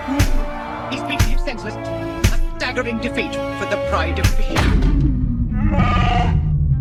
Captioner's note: slam; chewbacca moans